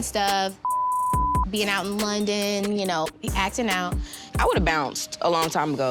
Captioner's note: beep